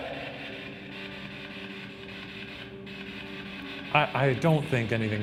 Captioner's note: ghost box static